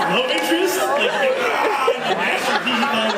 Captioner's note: laughs